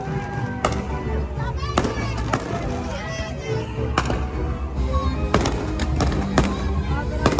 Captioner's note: guests whooping; fireworks crackling